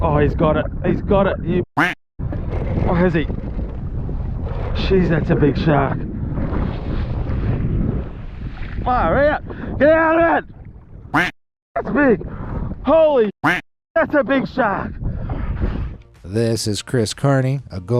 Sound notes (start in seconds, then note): 1.8 duck quacking; 11.1 duck quacking; 13.4 duck quacking